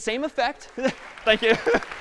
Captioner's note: applause